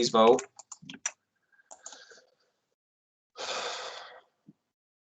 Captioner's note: mouse clicking